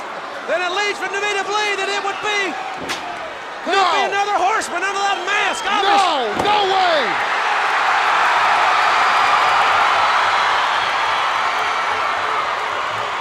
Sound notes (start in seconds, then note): 7.4 crowd cheering